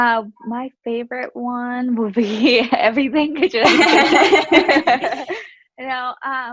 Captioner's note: laughs